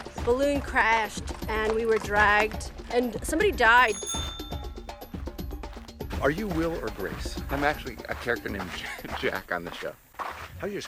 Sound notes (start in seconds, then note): 3.8 bell ringing